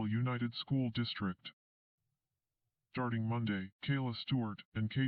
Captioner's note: on TV